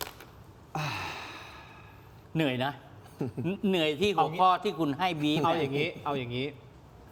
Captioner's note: sigh